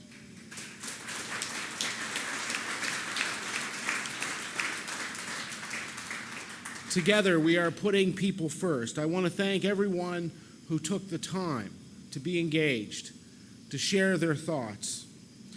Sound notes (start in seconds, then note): 0.0 applause